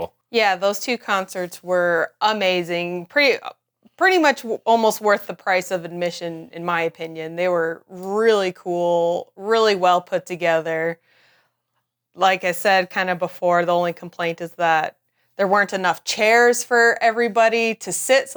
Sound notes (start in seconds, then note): none